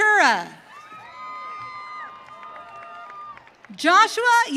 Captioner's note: audience cheering